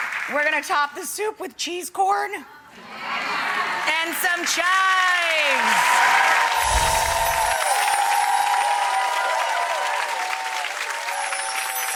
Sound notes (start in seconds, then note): 0.0 applause; 2.9 audience cheering; 5.7 applause